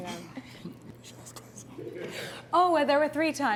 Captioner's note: whispering